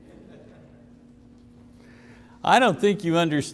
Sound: congregation laughing

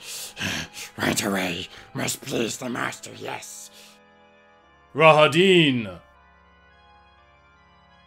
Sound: breathes heavily

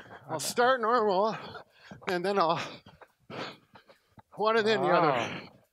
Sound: pants

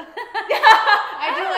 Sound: laughs

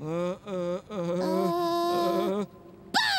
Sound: pigeons stammering

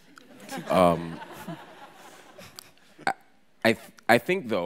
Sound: audience laughs

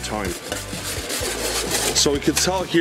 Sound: scraping pan

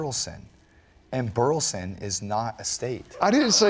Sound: laughter

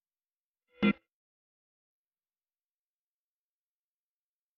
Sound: silence; silence continuing

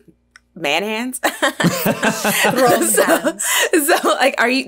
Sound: all laughing

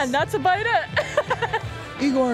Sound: laughs

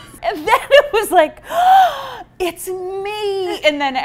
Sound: gasps

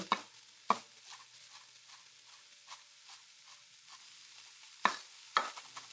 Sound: pan sizzling softly

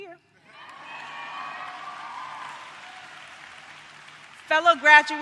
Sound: applause

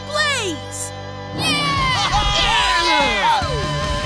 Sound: cheering

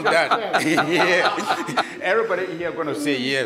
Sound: courtroom laughing

